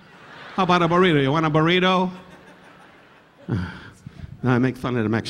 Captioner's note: audience laughing